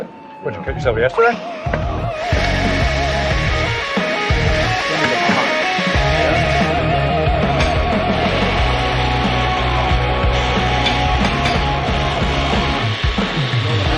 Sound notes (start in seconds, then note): 6.9 grinding